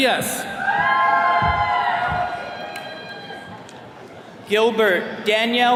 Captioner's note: attendees cheering